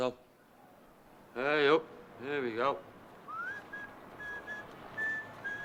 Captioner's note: Silbido